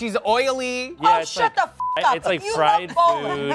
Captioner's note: beep